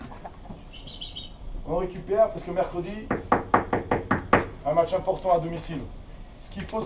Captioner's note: whistles